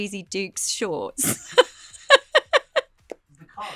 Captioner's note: laughter